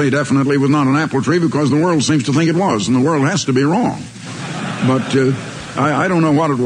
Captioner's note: laughter